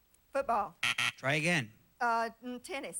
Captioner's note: buzzer sounds